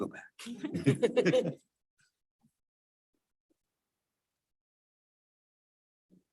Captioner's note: board members and attendees chuckle